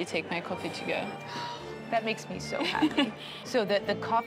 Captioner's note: sighs; laughs